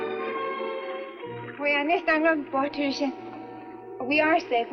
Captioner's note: Ann speaks Swedish